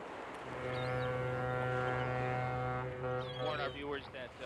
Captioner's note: foghorn blowing